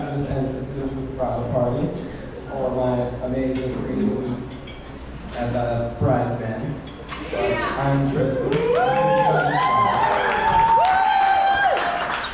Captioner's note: applause